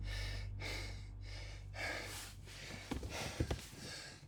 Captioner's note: David breathing heavily